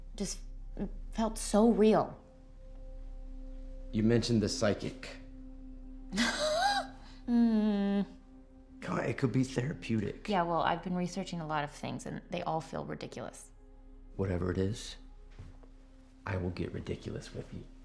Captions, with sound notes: Just felt so real. - You mentioned the psychic. - (laughs) Mm. - Come on, it could be therapeutic. - Yeah, well, I've been researching a lot of things and they all feel ridiculous. - Whatever it is, I will get ridiculous with you.